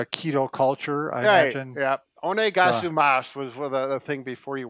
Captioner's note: japanese